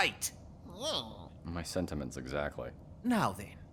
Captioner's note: KIKKAY grumbles